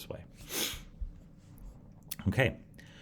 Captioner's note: sniffs